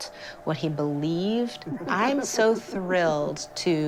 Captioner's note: laughs